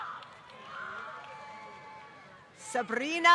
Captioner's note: applause